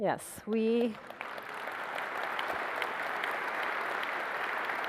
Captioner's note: applause